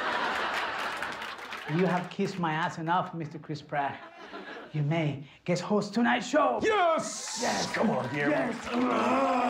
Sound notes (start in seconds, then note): 3.8 laughter